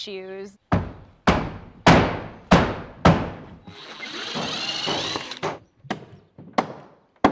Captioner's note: drill whirring; hammer pounding